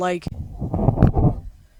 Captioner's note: breathes into microphone